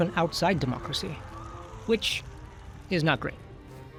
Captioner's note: fire hissing